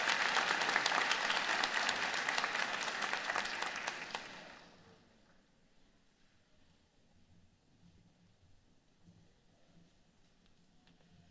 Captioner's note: applause